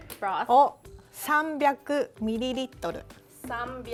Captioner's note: speaking Japanese